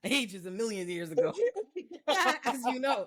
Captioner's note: laughing